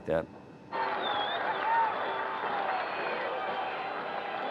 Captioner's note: cheers and applause